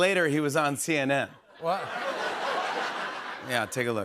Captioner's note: laughter